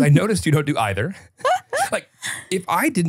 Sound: laughs

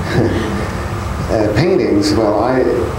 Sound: laughter

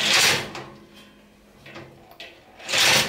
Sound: drills a bolt

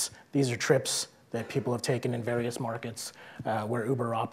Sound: none

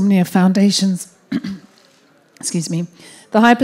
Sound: clears throat

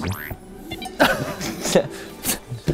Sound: laughs

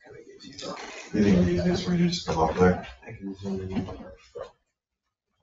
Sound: people speak distantly

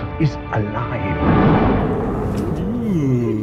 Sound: beast roars

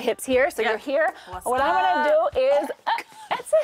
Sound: gags

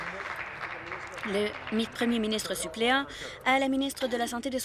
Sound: applause

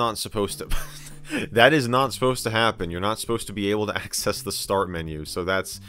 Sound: laughs

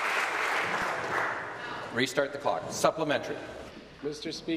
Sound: applause

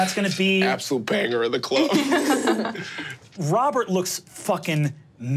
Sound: players laughing

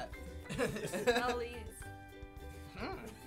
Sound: others chuckle

